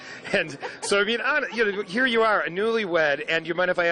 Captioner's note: laughs